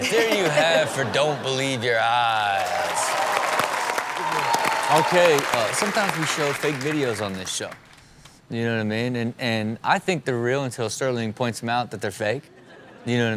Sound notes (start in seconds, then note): 2.2 crowd applaud and cheer